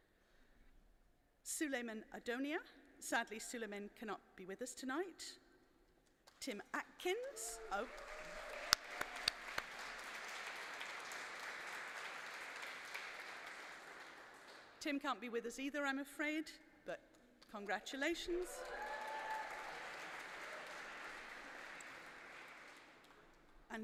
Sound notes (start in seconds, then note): 7.2 applause